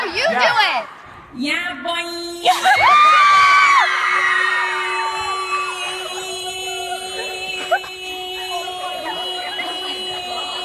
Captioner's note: audience cheers